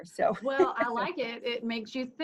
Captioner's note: soft laugh